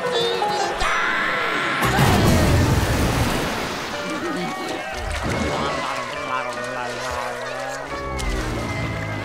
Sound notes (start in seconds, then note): 5.5 groaning